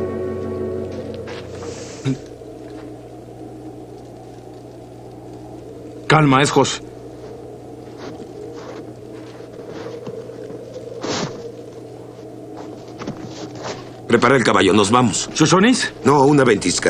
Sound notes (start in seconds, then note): 2.2 bird-like calling; 7.9 bird-like whistling